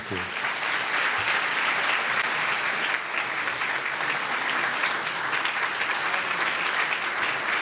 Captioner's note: applause